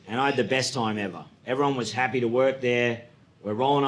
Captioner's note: none